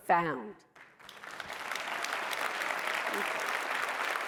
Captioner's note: applause